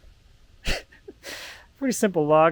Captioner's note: laughs